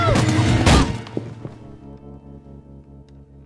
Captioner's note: loud thud